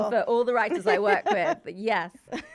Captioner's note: laughing